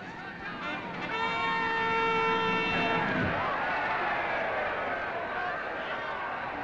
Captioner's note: crowd cheering; trumpets reporting